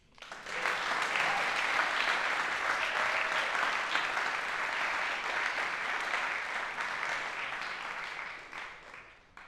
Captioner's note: applause